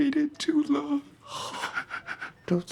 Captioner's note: Jesse sobs and starts to cry